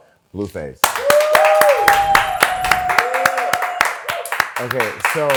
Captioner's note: cheering